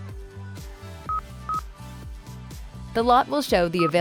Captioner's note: menu beeping